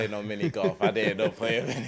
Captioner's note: laughs